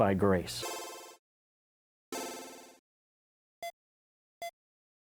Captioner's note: Barulho de video-game retrô